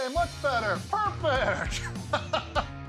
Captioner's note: laughs